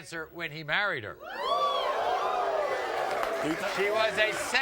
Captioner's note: audience cheering and applauding